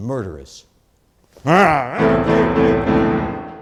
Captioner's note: grumbles